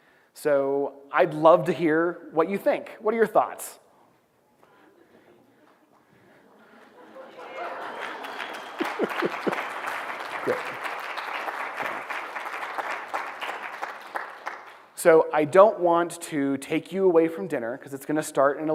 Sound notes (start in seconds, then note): 6.3 laughter; 7.2 applause